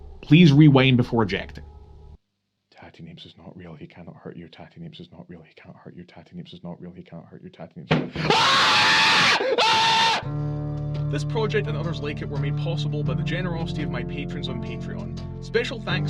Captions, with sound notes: Please rewind before ejecting. Tattie Neeps is not real, he cannot hurt you... Tattie Neeps is not real, he cannot hurt you... Tattie Neeps is not real, he cannot hurt you... (unjustified screams)